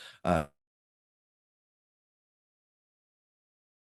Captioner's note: audio mutes